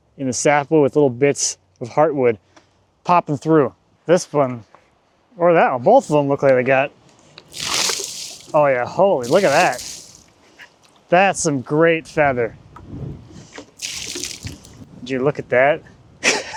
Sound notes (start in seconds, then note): 7.7 water splashing; 13.8 water splashing; 16.3 chuckling